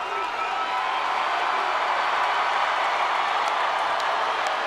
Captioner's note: crowd cheers; crowd roars; Hardy claps